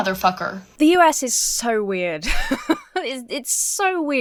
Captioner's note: laughs